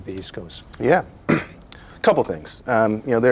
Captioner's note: clears throat